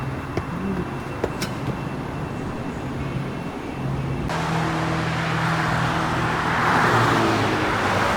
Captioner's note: loud highway noises